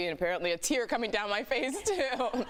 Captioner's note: laughter